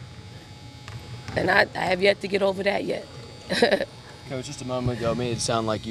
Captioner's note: chuckles